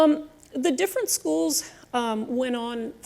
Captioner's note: none